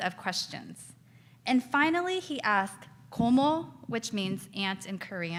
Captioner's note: speaks in foreign language